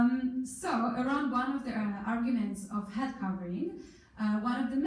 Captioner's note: in foreign language